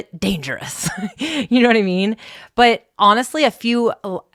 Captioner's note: laughs